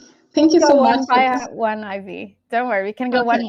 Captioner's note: chatter